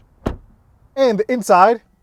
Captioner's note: car door thumps